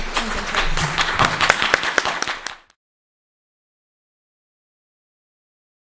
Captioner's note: applause